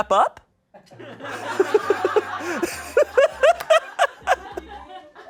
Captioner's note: audience laughing